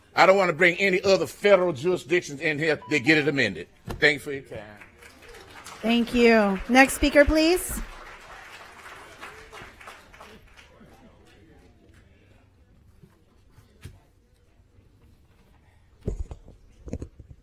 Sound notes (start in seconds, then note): 12.3 applause